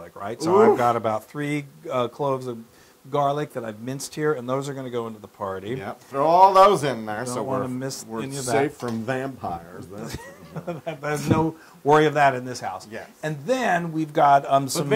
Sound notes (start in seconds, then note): 10.0 laugh